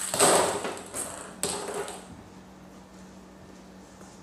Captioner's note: balls rustling